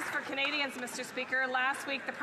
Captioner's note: some Applause